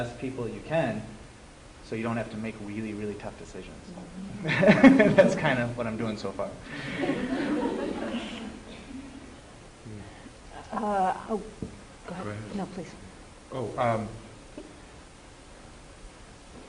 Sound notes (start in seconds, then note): 6.7 laughter